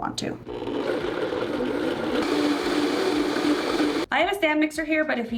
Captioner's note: blender whirring